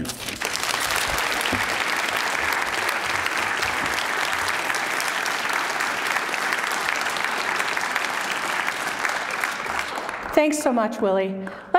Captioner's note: applause